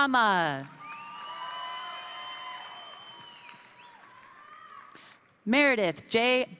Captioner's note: crowd applauding; crowd cheering